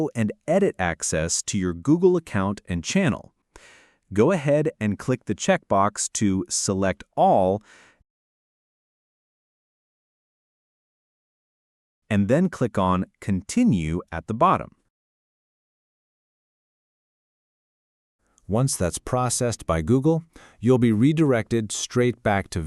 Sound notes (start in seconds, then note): 6.4 short pause; 14.9 long pause